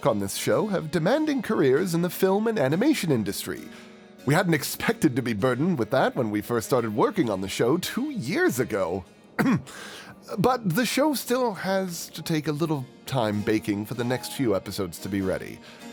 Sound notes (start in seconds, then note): 9.4 ahem